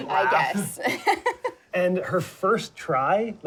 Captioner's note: both laugh